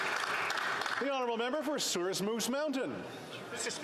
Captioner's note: applause